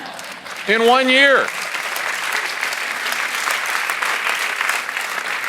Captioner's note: audience laughs; audience applauds